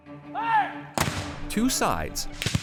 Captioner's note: cannon fires